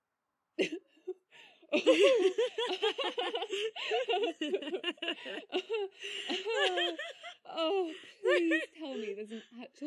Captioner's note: nyx and bella burst out laughing